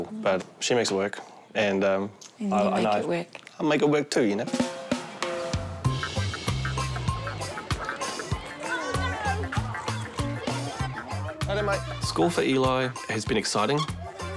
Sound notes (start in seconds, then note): 5.0 upbeat, funky music; 7.0 children chatter